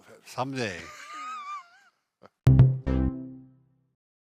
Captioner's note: laughing